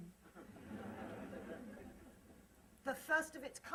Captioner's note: laughter